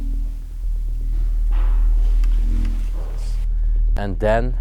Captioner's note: loud knocking noise